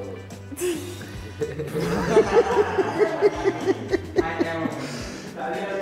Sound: laughter

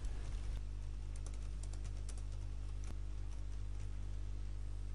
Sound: sound of typing

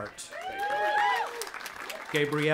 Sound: audience applauding and cheering

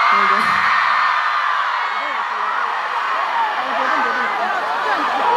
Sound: fans yelling take it off

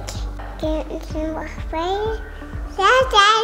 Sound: baby talk

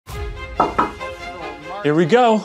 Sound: knocking on door

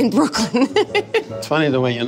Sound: laughing

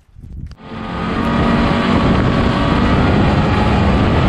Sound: noises of running snow machines

